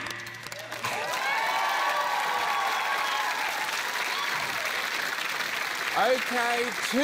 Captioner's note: cheering, applause